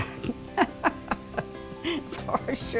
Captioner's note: laughing